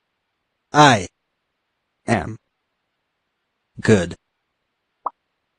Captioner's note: voiceover